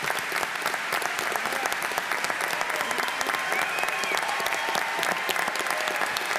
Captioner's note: applause